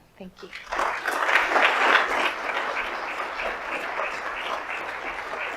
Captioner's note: audience applauds